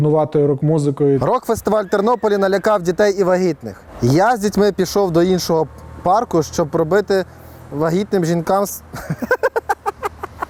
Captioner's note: laughing